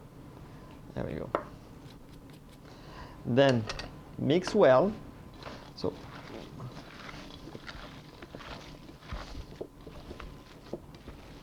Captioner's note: mixing sounds